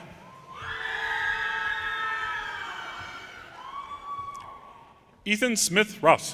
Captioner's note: audience cheers and applause